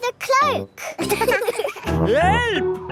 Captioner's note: laughing